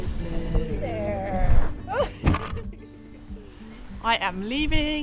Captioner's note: laughs